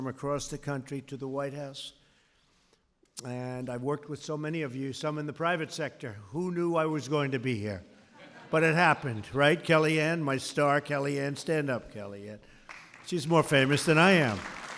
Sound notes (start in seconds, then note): 8.1 laughter